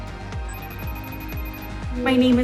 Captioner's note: phone rings